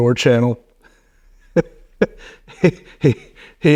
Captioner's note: laughing